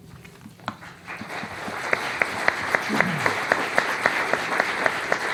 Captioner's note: applause